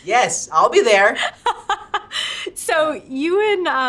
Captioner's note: laughing